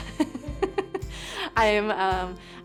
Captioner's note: participant laughs